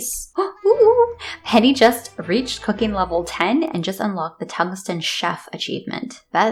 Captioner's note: gasp